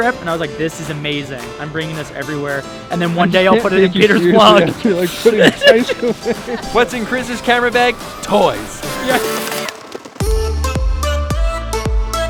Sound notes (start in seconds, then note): 6.0 laughing; 9.3 worldbeat music